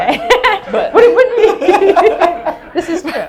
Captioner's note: all laugh